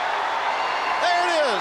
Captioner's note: crowd cheering